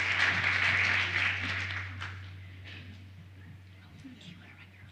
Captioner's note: applause